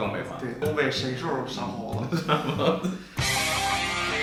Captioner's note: laughing